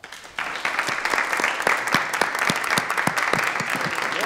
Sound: audience applauding

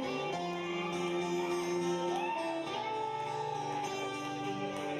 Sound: gentle guitar music; audience cheering

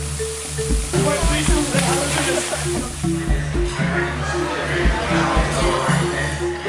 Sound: crowd chatting

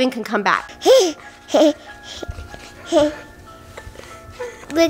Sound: baby giggling

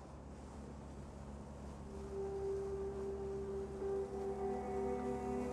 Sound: boat engine; mysterious music begins

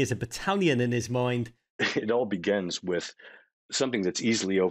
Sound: chuckling

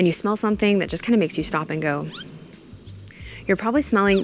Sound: flower squeaks

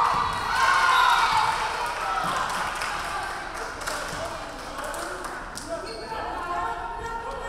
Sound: crowd cheering; referee whistling

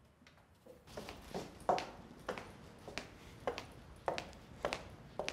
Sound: heels clicking

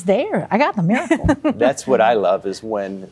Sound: giggling

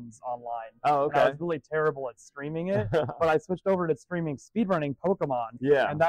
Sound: laughs

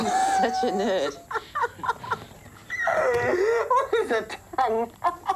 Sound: laughing; laughing hysterically

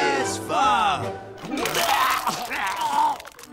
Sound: vomiting

